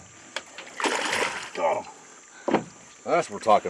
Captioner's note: fish splashing